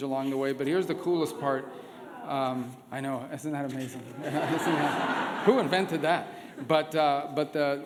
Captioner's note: laughter